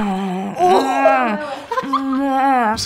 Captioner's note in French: rires